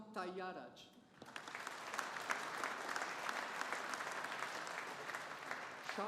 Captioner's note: audience applauding